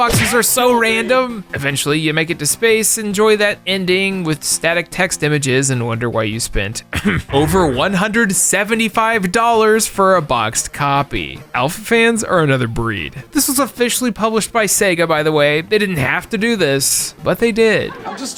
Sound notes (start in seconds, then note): 6.9 ahem